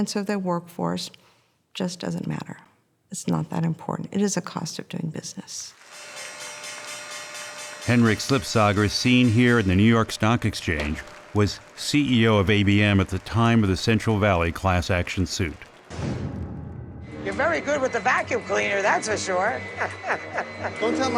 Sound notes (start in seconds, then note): 6.8 bell ringing